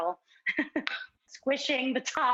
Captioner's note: laughs